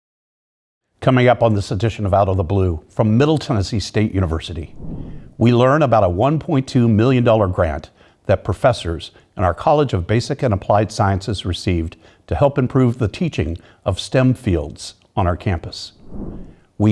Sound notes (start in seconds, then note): 4.6 air whooshing; 15.9 air whooshing